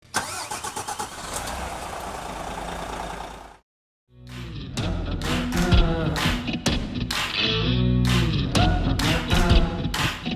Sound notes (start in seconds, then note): 0.1 car engine roaring; 4.2 upbeat music